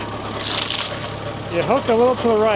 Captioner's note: water splashes